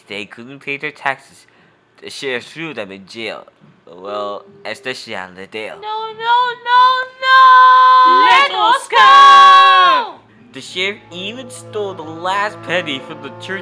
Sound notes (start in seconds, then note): 5.8 Skippy, background